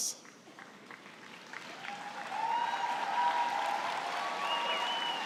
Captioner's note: cheering and applause